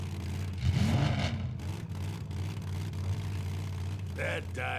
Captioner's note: engine revving